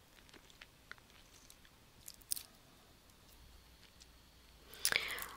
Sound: pause in Lecture

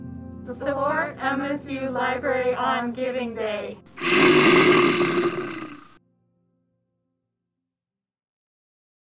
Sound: bear roar

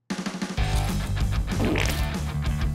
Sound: farting

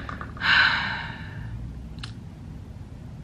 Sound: sigh

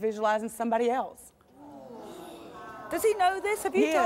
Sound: audience gasping

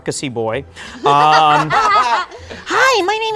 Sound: laughter

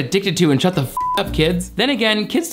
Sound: beep

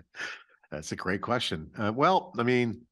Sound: chuckling

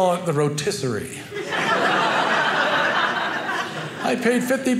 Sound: audience laughing

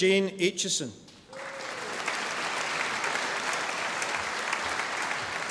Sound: audience applauding

